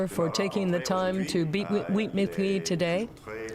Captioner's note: speaking French